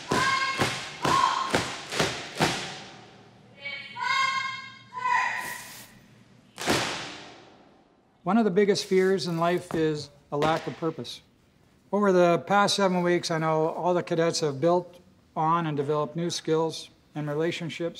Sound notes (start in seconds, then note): 2.1 feet stop stamping; 6.6 loud foot stomp